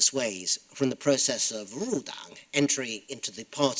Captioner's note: speaking foreign language